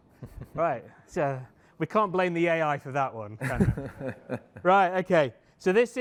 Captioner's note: laughter